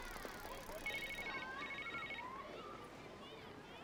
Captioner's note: handy ringing